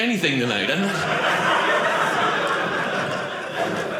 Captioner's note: audience laughing